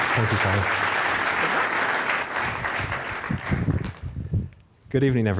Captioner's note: applause